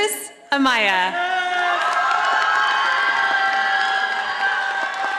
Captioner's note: audience applauding